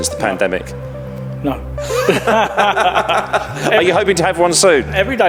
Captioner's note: both laughing